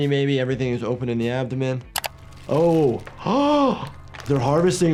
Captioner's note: mouse clicks; gasps